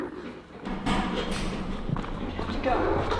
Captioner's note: door opens